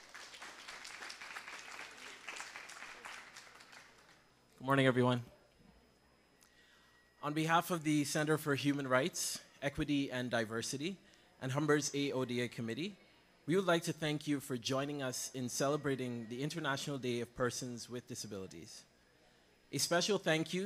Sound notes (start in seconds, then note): 3.2 cheering